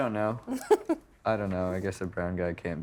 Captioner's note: chuckling